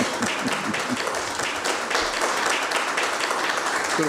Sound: clapping

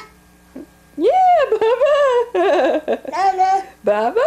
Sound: laughs

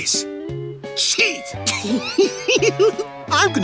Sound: laughing

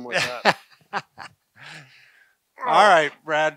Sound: laughs

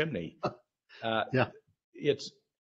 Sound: chuckles

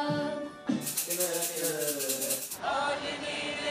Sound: upbeat vocalizations

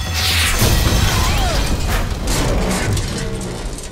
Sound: loud explosion, alarm shuts off

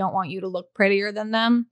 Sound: beep

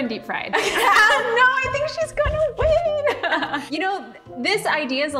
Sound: both laughing

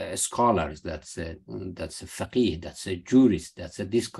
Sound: speaking arabic

